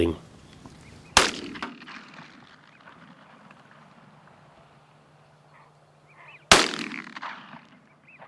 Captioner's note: gunshots